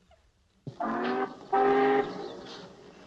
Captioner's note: train horn blaring